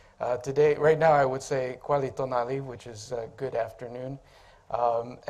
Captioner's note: speaking Aztec